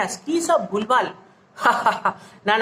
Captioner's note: laughing